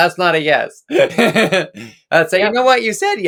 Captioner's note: laughs